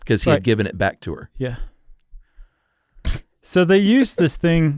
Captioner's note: laughs